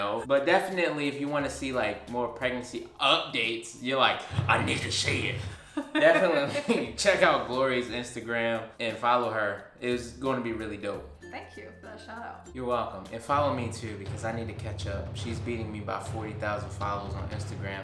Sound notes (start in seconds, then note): 5.4 laughs